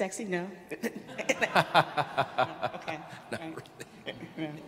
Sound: audience laughing

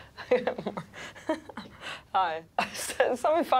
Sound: chuckling

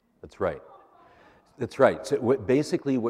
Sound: laughter

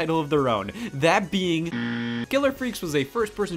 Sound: buzzer sounding

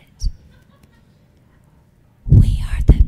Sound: audience member laughing

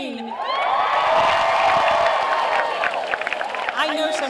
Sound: graduates cheering

